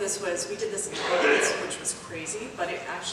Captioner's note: cough drowns out speaker